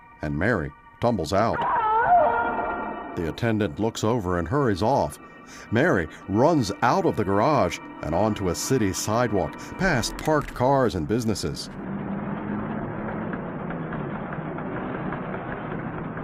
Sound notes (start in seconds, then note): 1.5 screams